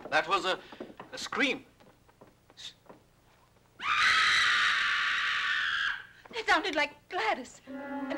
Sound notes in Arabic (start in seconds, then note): 3.8 غلاديس تصرخ